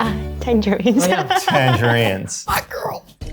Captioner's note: laughs